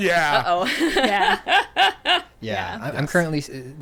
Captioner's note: laughing